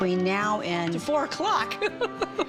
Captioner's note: laughs